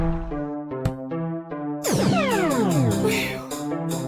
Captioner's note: teleportation sound